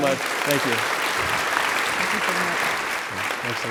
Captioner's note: audience appluading